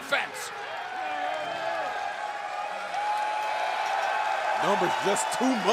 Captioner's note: crowd cheering